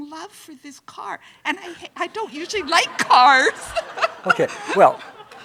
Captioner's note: everyone loudly laughing